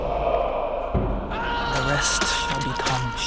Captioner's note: Sheriff shouting